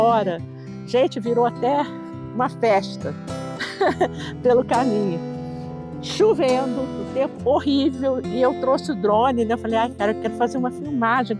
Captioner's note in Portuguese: risos